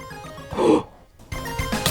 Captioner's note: ghasp